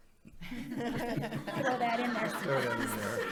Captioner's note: audience applauding